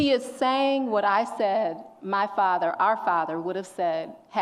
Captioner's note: none